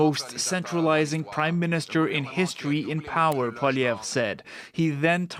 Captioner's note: speaking French